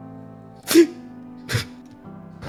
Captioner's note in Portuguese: snif, snif